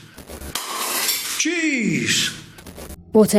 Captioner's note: glass breaking